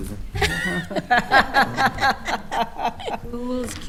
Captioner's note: attendees laughing